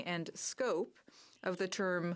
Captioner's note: speaking french